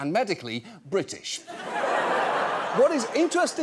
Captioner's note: audience laughs